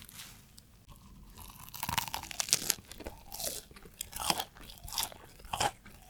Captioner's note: eating Sound